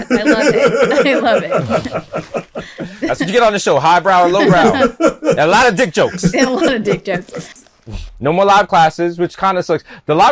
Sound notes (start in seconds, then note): 0.0 laughs